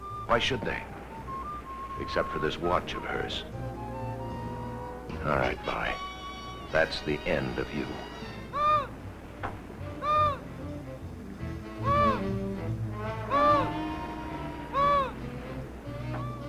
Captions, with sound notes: Why should they? Except for this what of hers. All right, Vi, that's the end you. (seabird calling) (light jazzy music)